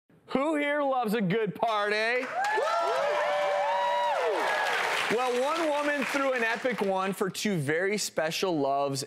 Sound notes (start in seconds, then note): 2.1 applause and cheers